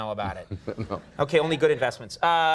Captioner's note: chuckles